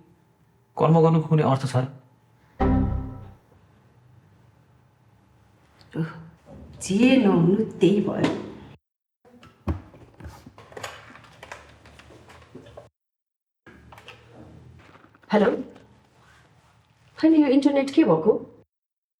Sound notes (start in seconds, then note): 2.6 computer error sound